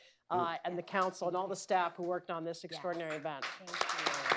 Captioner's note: applause